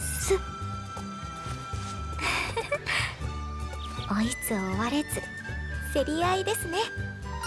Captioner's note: chuckle